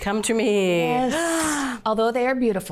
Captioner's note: gasps